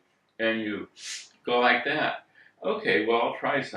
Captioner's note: sniff